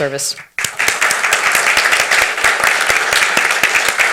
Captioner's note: everyone applauds